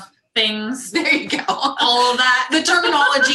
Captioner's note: laughs